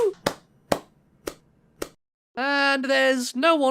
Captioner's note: clapping sounds